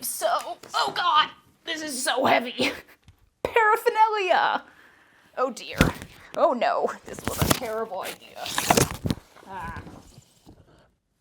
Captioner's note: many thuds